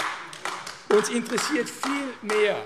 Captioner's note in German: Beifall AfD